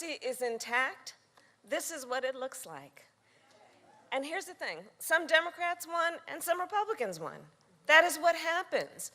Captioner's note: cheering